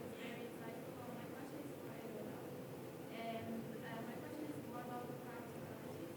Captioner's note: speaking faintly